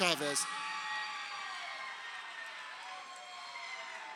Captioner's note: crowd cheering